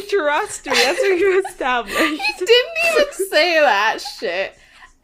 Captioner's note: laughs